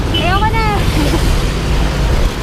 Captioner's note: laughs